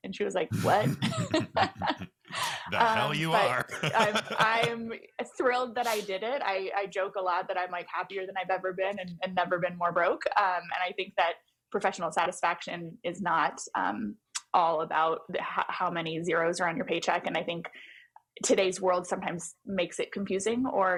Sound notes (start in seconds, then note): 0.5 both laugh; 2.3 laughs